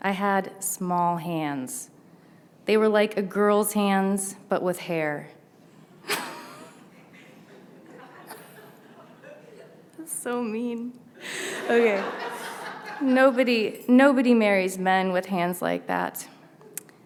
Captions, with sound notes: I had small hands. They were like a girl's hands, but with hair. (laughs) So mean! Nobody, nobody marries men with hands like that.